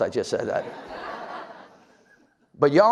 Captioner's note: audience laughs